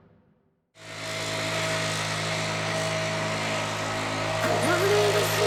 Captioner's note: blower motor humming; soothing music